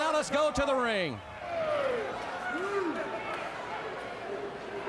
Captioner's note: fans shouting